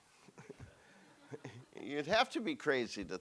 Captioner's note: audience chuckles